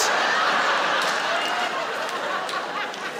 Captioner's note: laughing